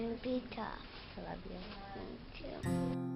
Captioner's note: voiceover; gentle keyboard music